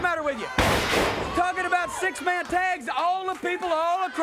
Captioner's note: body thudding